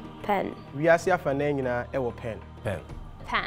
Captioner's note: speaking foreign language